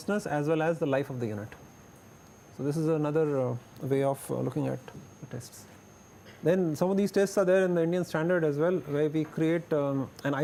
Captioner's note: window air conditioner